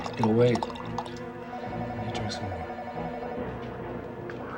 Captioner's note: phone ringing